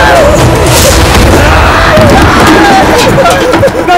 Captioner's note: Thuds on the floor; Screams